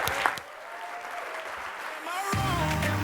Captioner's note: audience cheering; audience clapping